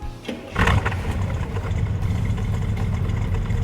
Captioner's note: engine starts up